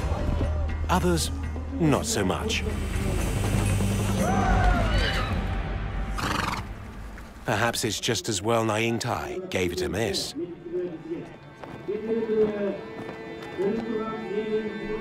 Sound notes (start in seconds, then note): 6.2 horse snorts